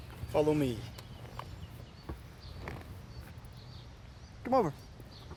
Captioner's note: birds chirping